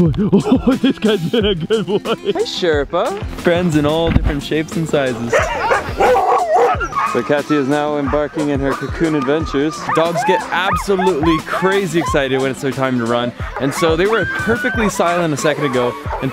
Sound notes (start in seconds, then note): 0.0 laughing; 5.5 dogs howling